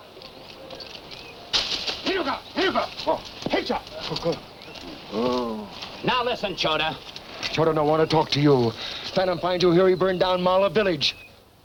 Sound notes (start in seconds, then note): 1.6 straw shaking; 2.6 foreign language